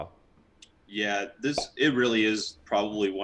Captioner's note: logo popping